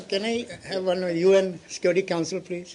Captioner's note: laughter